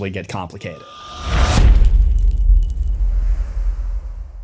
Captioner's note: impact